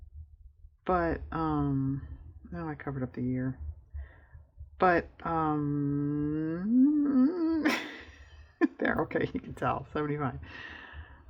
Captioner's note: laughs